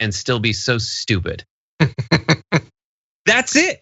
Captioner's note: laugh